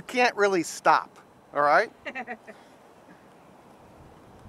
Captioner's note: woman laughs